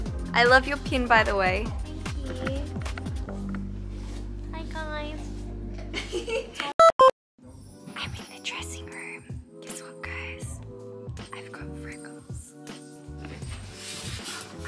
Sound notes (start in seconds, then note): 9.0 whisper